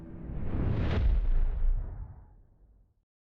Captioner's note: logo whooshes